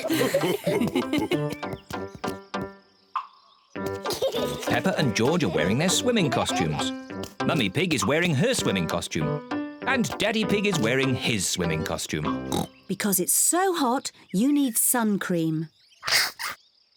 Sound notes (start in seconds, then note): 0.0 mummy pig and daddy pig chuckle; 12.4 oinks